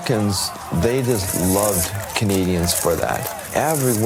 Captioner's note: people cheering